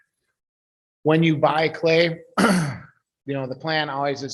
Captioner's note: clears throat